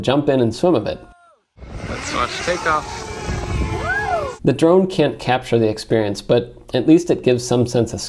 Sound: drone takeoff noises

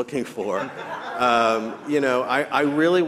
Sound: audience chuckling

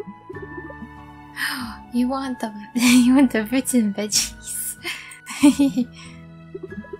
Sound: gasp; laughter

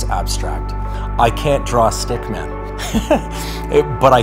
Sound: laughs

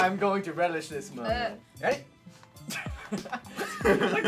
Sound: laughter

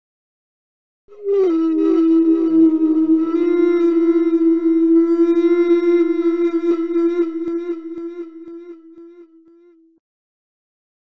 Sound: eerie sound

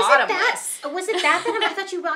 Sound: laughing

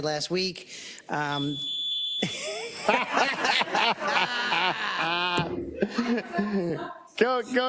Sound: laugh

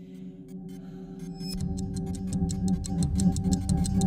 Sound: ticking sound speeding up

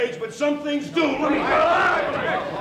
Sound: shouting; gavel pounding

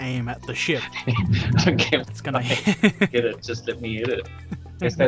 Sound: laughter; laughter

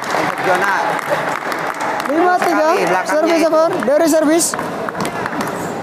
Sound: applause

